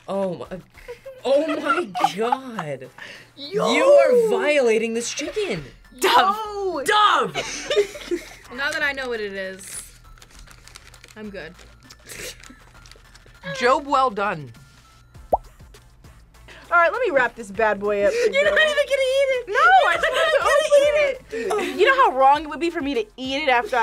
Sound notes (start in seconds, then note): 7.3 group laughs; 11.9 laughs